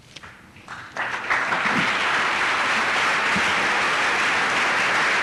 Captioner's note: applause